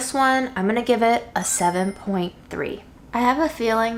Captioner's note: chimes tinkling